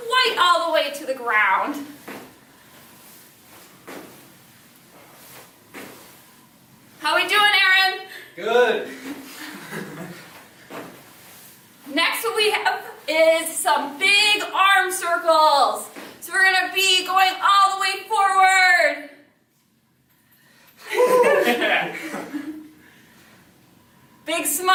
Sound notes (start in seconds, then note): 8.9 chuckles; 20.8 laughing